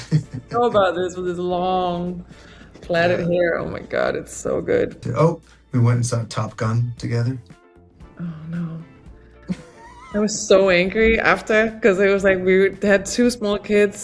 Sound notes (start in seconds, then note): 9.4 Oscar laughing